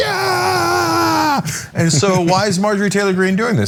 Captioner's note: laugh